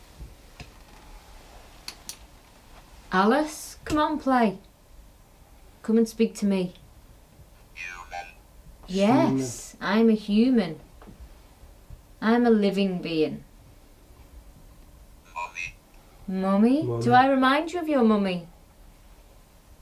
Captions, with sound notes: Alice, come on and play. Come and speak to me. - [Robot Voice] Human. - Yes, I'm a human. I am a living being. - [Robot Voice] Mommy. - Mommy, do I remind you of your mommy?